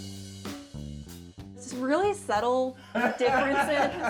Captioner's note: laughing